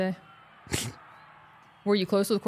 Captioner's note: Mark laughs